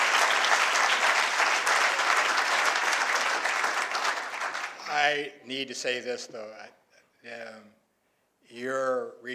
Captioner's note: applause